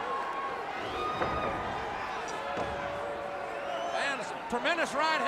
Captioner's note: crowd cheering